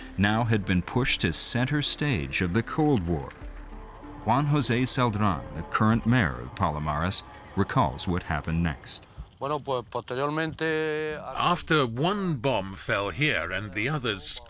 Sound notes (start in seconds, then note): 9.2 non-english speech